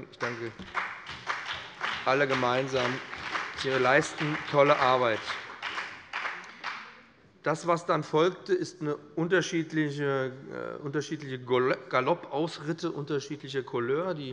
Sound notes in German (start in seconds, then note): 5.1 Allgemeiner Beifall